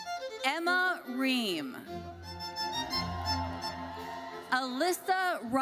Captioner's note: audience cheers